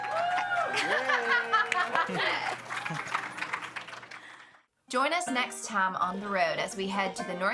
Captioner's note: audience cheering; audience applauding